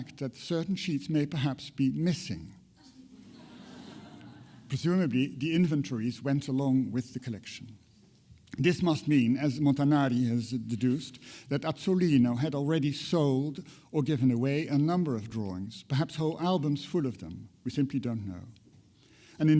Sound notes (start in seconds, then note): 3.0 audience laughter